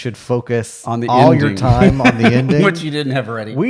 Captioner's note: laughing